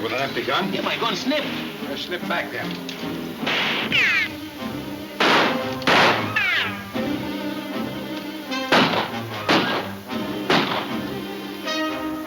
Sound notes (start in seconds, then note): 2.8 dramatic music; 2.8 guns firing